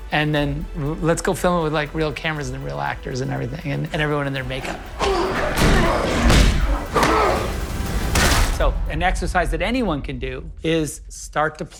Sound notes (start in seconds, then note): 5.0 body thudding; 5.2 intense music; 6.5 blows connecting